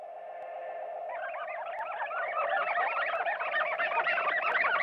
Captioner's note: aliens chattering